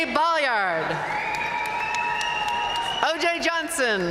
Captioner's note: audience cheering and applauding